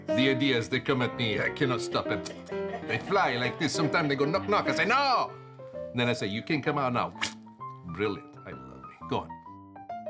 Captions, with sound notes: The ideas, they come at me, I cannot stop them. They fly like this, sometimes they go knock, knock. I say, "No," and then I say, "you can come out now." (vocalizes splattering) Brilliant, I love me, go on.